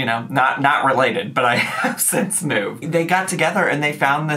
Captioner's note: laughs